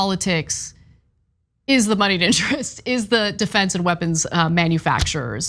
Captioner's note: laugh